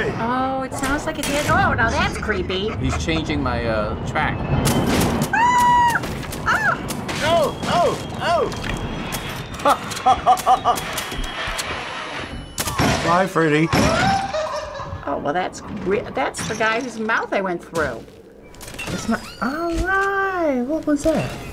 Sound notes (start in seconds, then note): 5.3 screaming; 9.5 chuckles; 13.7 clown laughs creepily